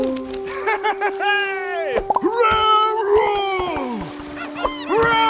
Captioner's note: laughing & cheering